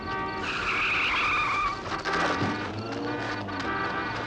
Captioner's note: tires screeching